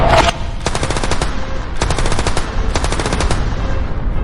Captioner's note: explosion booming; guns firing